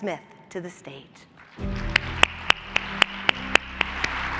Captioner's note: applause